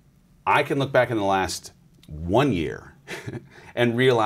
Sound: laughs

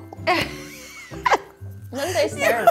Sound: laughs

